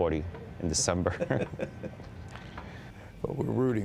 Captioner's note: laughter